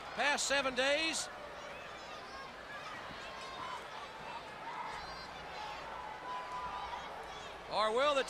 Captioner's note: crowd chatter